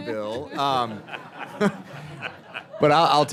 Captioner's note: laughter